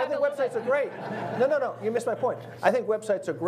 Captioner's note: audience laughs